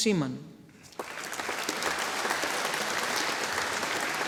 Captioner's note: audience applauding